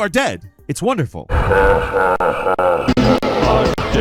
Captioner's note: game character 2 laughing